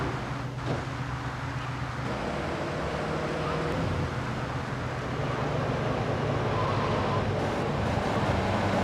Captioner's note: engine roaring